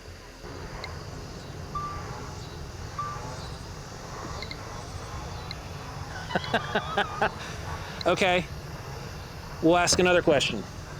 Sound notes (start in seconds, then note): 1.2 REM pod beeping; 6.1 laughs